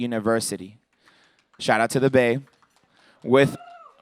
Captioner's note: cheers